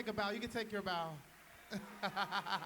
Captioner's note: cheers and applause